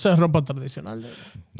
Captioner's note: speaking In Foreign Language